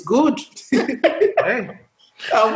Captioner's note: laughter